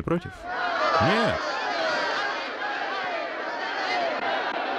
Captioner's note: crowd shouting